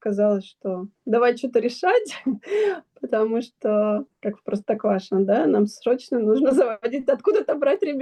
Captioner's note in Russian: тяжело вздыхает